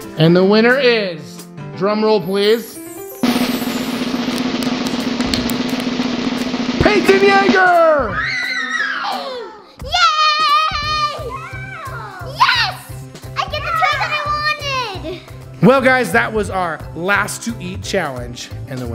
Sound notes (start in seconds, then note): 3.2 drum roll; 7.6 kids scream